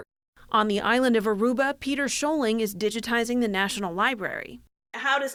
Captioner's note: voice-over